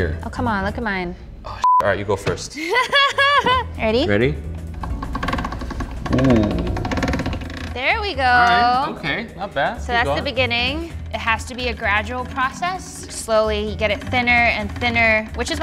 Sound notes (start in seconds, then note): 2.5 laughs; 4.6 pasta machine creaking